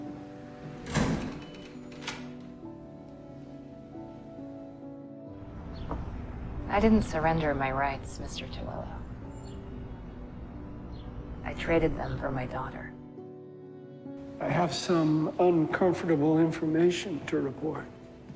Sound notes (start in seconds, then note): 0.6 door shuts and locks; 14.6 voiceover